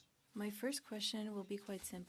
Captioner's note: speaking French